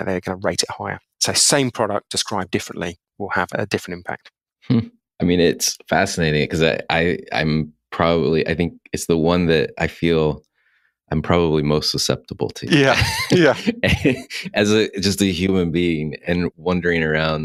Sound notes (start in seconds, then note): 12.7 laughs